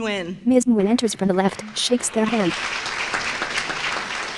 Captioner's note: applause